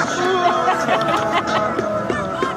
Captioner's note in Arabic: يضحك